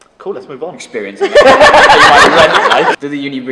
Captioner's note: laughing